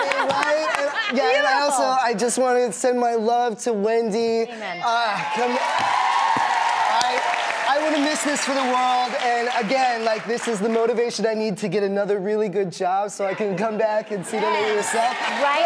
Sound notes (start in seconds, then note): 0.0 laughing; 4.8 crowd cheering